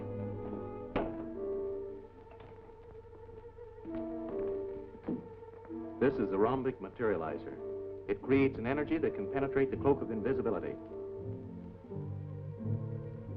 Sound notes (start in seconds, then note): 0.9 door locks